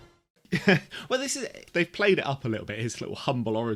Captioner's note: chuckles